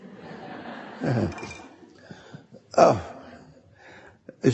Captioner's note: audience laughing